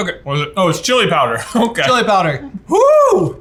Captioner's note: laughs